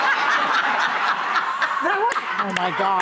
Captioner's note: laughter